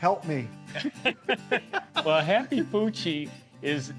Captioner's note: laughs